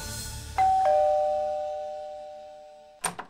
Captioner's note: doorbell rings; door opens